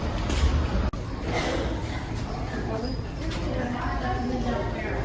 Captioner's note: people chattering